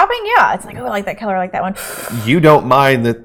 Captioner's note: inhaling sharply